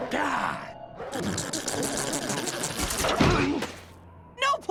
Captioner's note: farty Plane Noises